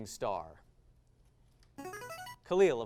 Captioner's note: device sound